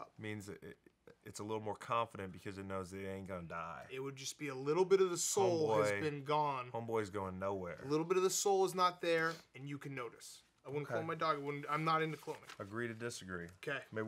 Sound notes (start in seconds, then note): none